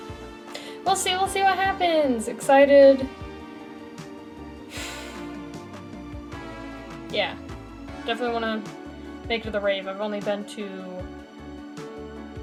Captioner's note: sigh